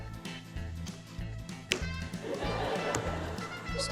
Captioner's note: laughter